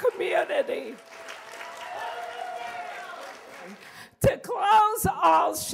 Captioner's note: cheers and applause